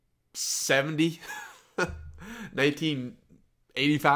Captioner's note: laughs